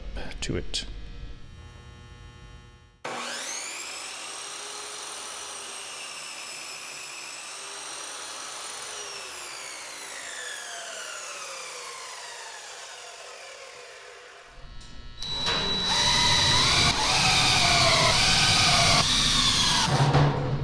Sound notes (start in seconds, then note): 3.0 obnoxiously shrill compound miter saw noise; 9.2 saw slows, stops; 15.3 drilling